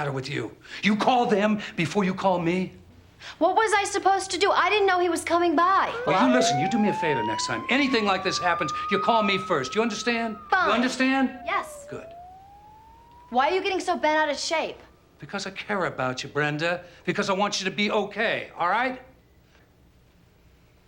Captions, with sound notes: I said, what the hell is the matter with you? You call them before you call m? - What was I supposed to do? I didn't know he was coming by. (sirens wailing) - Well, you listen, you do me a favor next time, anything like this happens, you call me first, do you under? - Fine! - You understand? - Yes. - Good. - Why are you getting so bent out of shape? - Because I care about you, Bre. Because I want you to be okay, ?